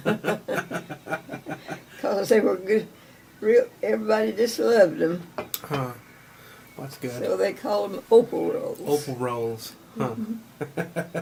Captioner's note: laughs